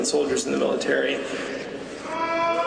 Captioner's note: audience boos